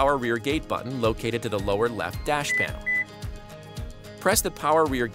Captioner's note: electronic beeps